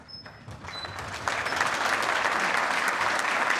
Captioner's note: applause